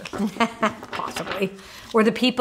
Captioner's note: laughs